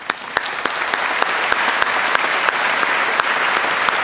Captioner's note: applause